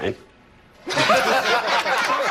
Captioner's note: laughter